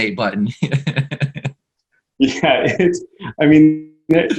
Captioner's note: laughs